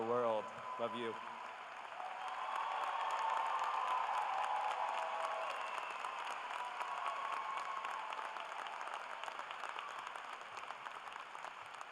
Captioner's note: cheers and applause